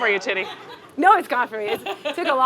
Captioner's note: audience chuckling